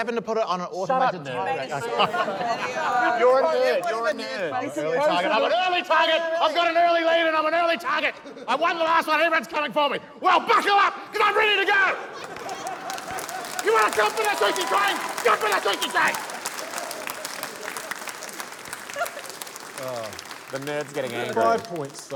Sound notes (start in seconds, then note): 5.6 yells; 11.3 yells; 16.7 cheering, applause